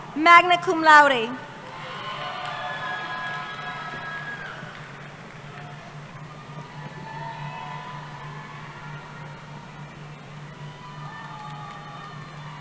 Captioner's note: cheering